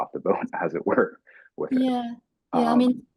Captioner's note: chuckling